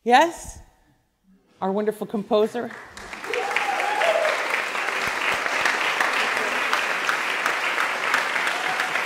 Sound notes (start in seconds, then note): 2.6 applause; 3.0 cheers